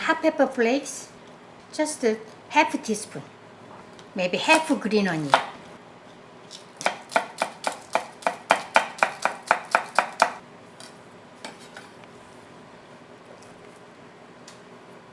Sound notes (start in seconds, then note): 6.5 knife chopping